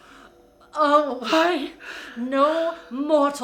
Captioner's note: speaking in foreign language